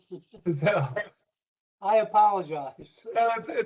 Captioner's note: laughter